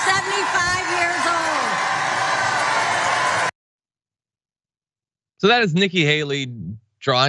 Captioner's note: applause